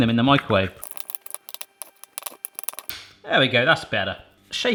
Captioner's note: spoon clattering